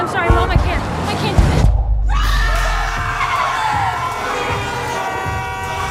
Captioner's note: screaming; traffic commotion